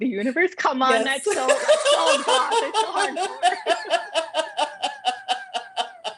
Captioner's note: laughter